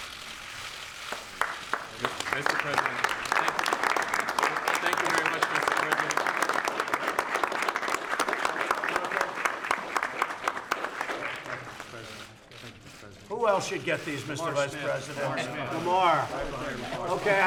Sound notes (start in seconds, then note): 0.9 applause